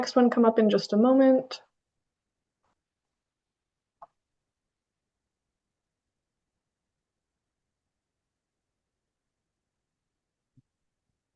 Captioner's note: pause